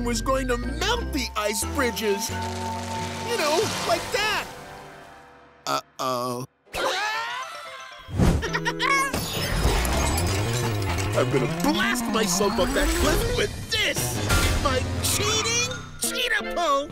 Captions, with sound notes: was going to melt the ice bridges. You know, like that. Uh-oh. [screaming] [laughing] I'm gonna blast myself up that cliff with this. My cheating cheat-pult!